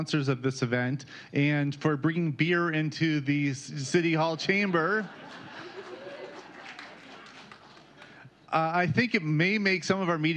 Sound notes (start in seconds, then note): 4.6 laughter